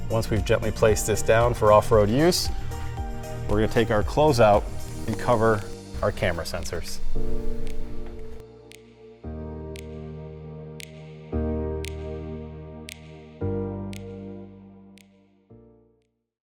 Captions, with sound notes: Once we've gently placed this down for off-road use, we're gonna take our closeout and cover our camera sensors. (relaxed music) (rhythmic clicking)